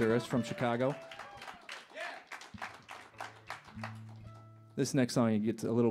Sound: aplausos; applause

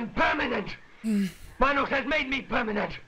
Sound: sighs

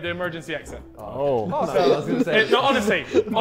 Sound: Sidemen laughing

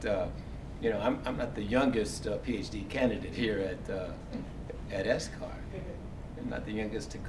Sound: laugh

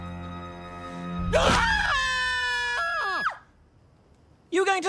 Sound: screaming

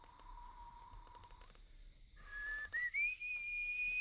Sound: whistling

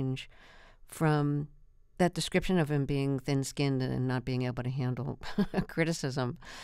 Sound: laughter

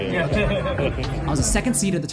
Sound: players laughing

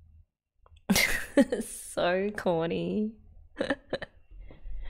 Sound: laughs

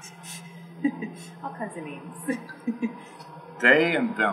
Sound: laugh

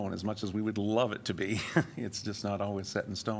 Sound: laughter

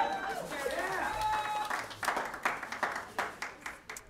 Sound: applause

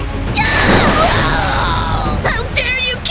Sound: screamofdrowning

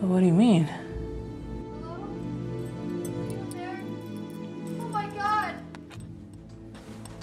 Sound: Emily yelling offscreen

